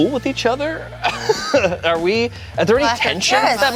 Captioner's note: laughs